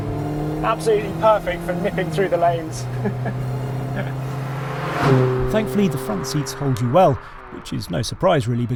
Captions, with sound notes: Absolutely perfect for nipping through the lanes. (chuckles) (car vrooms) Thankfully, the front seats hold you well, which is no surprise really (melodic music)